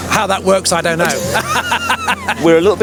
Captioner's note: laughing